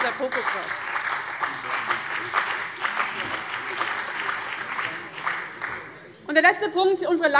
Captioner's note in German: Beifall CDU, BÜNDNIS 90/DIE GRÜNEN und Freie Demokraten